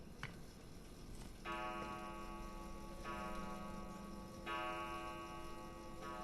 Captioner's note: clock chimes